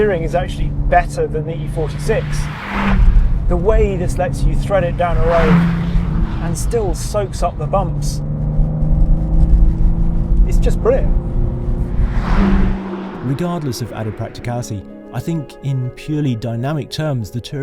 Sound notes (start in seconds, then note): 12.5 engine zooms